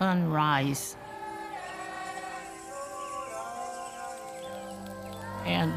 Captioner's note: chanting